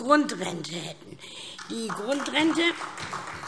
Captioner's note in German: Beifall SPD